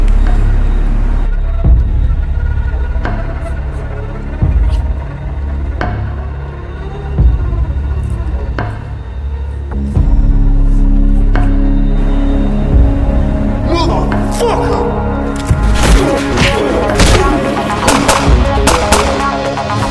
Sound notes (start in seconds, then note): 4.4 bag unzips; 8.5 papers ruffling; 15.2 Chris grunting; 15.2 thugs grunting; 16.9 gun firing; 17.6 exciting music